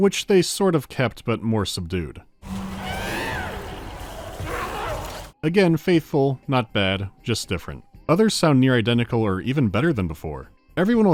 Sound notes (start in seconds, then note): 2.4 more subdued shrill cries